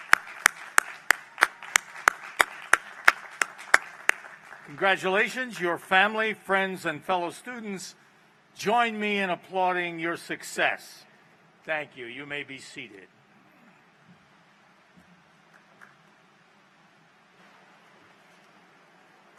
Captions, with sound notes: [APPLAUSE] CONGRATULATIONS. YOUR FAMILY, FRIENDS AND FELLOW STUDENTS JOIN ME IN APPLAUDING YOUR SUCCESS. THANK YOU. YOU MAY BE SEATED.